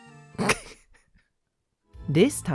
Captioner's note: laughs